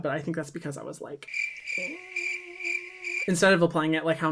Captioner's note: crickets cricking